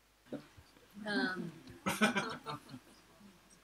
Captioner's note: laugh